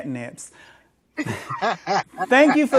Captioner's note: laughs